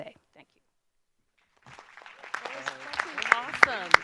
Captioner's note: audience applause